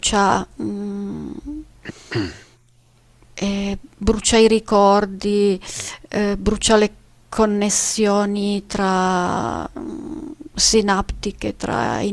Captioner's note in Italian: schiarire la voce